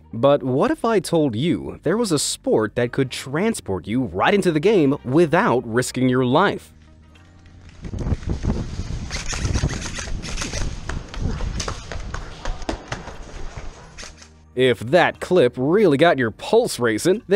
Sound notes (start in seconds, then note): 8.9 equipment squeaks; 12.0 footsteps pound